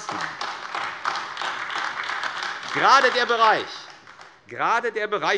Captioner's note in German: Beifall AfD